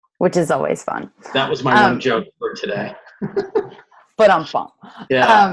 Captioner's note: laughs